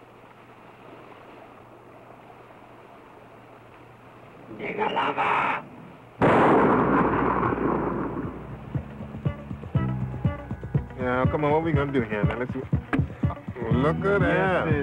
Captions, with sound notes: Nigger lover. (gunfire pops) (funky music) - Come on, what we gonna do here? Look at that.